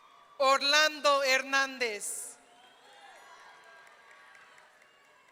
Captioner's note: audience cheering